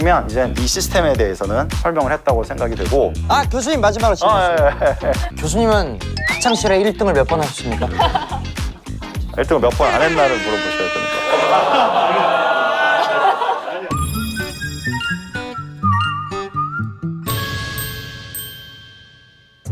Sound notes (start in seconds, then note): 11.6 cracked up